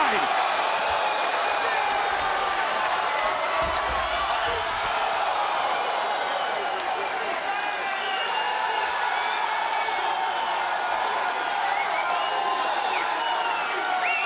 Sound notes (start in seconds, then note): 2.0 crowd cheers; 3.8 crowd chants "nxt"